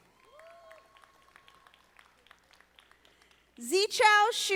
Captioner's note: audience applauding